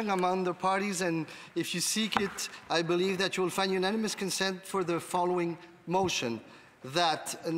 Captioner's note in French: voix de l'interprète